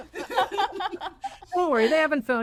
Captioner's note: laughing